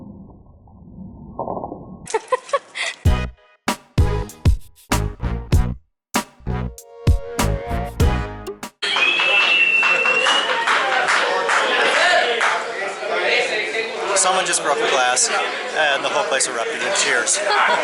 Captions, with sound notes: [Laughter] [Loud cheering] Someone just broke a glass and the whole place erupted in cheers.